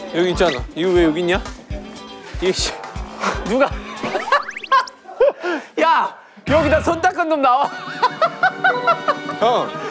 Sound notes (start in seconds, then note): 4.0 burst into laughter